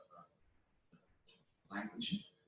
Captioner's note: pause